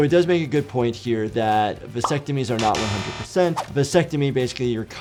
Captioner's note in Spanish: tono zumbador